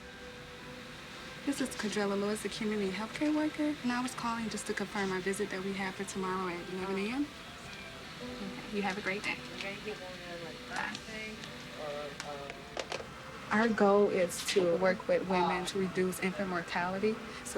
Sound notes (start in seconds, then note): none